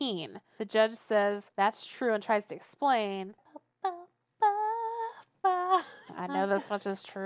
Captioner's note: starts humming "True"